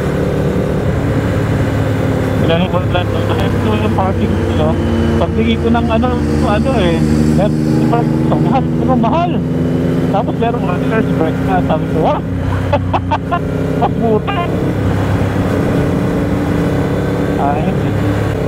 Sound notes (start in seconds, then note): 2.4 distorted audio